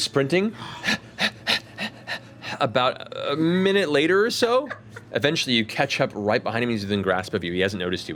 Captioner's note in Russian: тяжело дышит